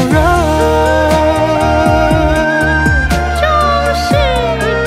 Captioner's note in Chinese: 戏腔念白